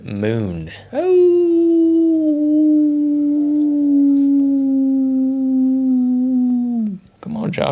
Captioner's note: me howling at the moon